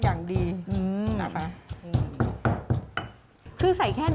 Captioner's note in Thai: เสียงโขลก